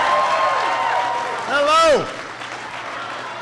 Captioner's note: applause